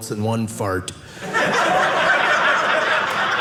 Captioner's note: audience laughing